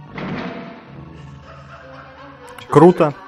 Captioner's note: woman laughing